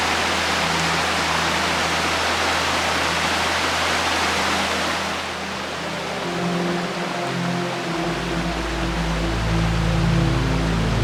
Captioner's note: rushing water and background music